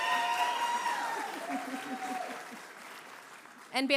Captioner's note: cheering; applause; chuckling; applause; cheering